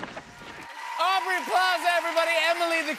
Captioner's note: cheers and applause